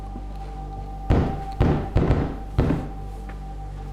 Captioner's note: knocking